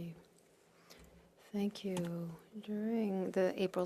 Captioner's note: speaking French